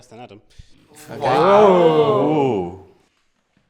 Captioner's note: they ooh